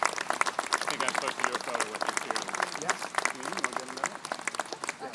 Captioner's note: faintly speaking